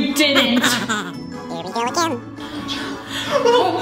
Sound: chuckles; gasps

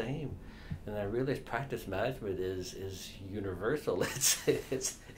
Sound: laughs

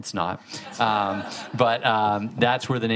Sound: audience laughing

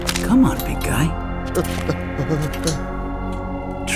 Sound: Jesus whimpers

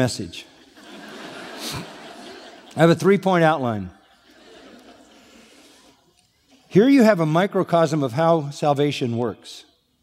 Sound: laughter

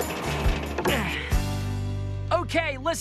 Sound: grunts

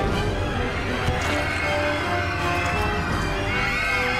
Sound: screaming

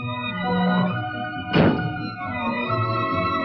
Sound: bonnet closes

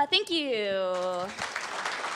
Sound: applause

